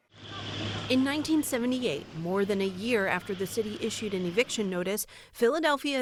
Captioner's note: voice-over